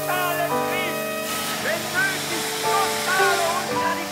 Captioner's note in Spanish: Hablando en alemán; Sonidos de tren